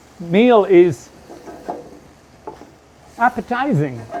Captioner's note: food sizzling